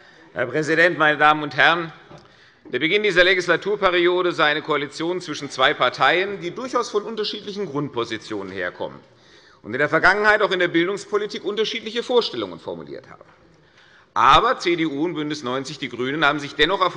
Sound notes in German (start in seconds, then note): none